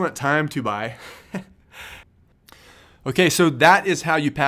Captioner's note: laughs